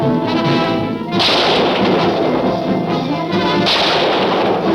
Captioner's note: gun fires